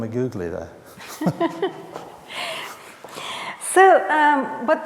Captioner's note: both laughing